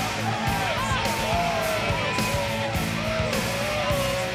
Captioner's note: crowd shouting